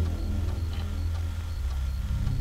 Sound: none

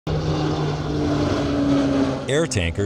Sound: airplane propellor engines sounds

